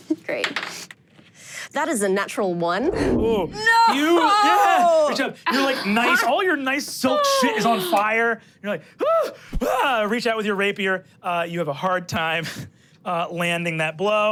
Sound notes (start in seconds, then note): 1.0 dice rolling; 2.8 dramatic whoosh; 9.0 grunts